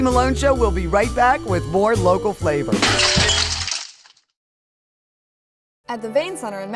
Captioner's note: glass breaking